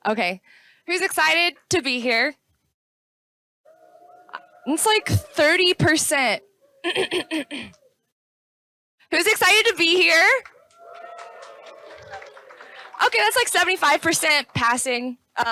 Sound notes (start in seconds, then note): 4.5 audience lightly cheers; 10.4 audience cheers louder